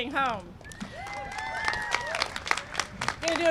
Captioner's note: applause